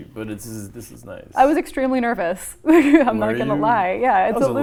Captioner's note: laughs